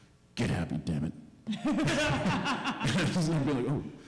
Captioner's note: laughter